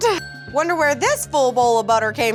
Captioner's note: ding